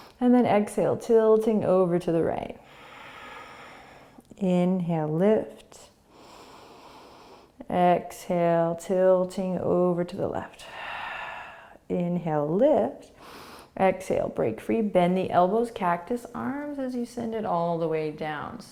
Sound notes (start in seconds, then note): 0.0 inhaling; 2.6 exhaling; 6.1 inhaling; 10.5 exhaling